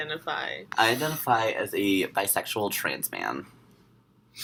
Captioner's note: voice-over